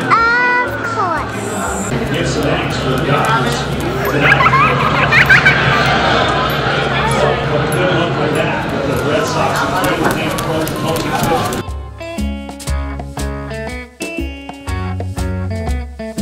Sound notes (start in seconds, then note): 4.1 child giggling eerily